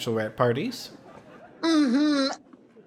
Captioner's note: audience laughing